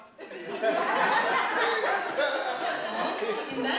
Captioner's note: laughter